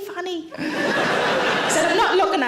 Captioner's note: audience laughing